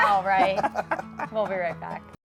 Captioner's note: laughing